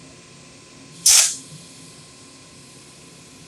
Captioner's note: nozzle spraying